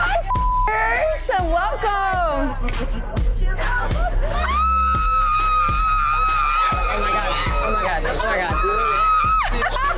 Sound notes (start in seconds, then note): 0.3 beepers; 4.2 girls screeching; 9.7 girl screeching and laughing